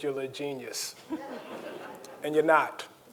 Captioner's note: audience laughing